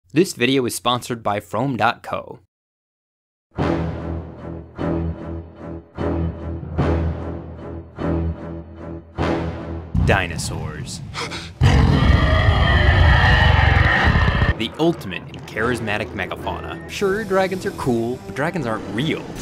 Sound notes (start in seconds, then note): 3.6 ominous orchestral music; 11.1 Malcolm gasps; 11.5 T. rex roars